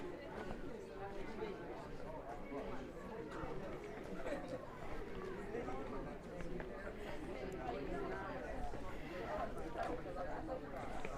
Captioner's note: background chatter